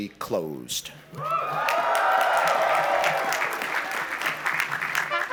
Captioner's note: cheering and applause